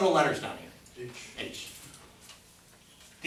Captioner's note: voiceover